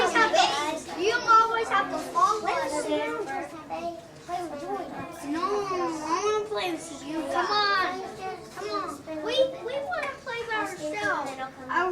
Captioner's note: children discuss wanting to play and still being friends